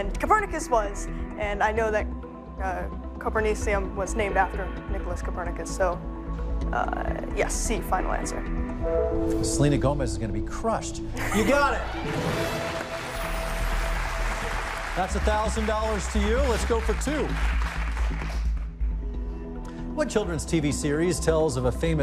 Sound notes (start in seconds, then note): 11.4 cheers and applause